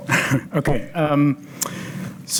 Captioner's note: chuckles